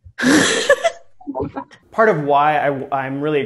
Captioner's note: laughing